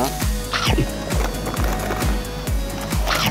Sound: Crunch

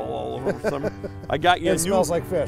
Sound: laughter

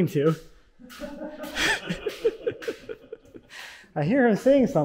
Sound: laughing

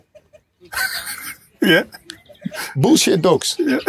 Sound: rire

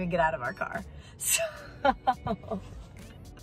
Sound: laughs

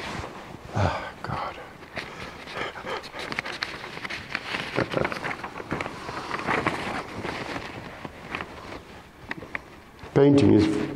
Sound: laughs

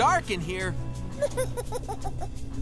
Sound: giggling

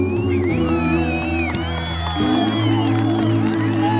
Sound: cheering

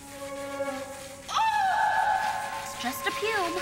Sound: Adena screams

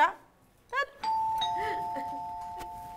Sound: doorbell rings

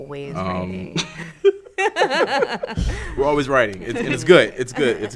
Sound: laugh

